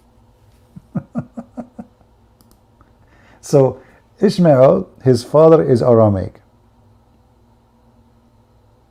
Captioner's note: Ketawa